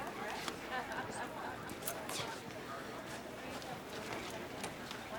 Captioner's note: staff chattering